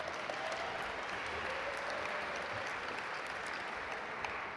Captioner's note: audience applaud